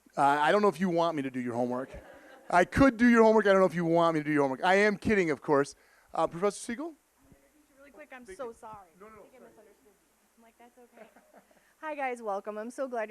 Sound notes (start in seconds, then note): 1.8 audience laughing